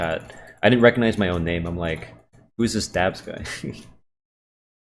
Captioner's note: chuckles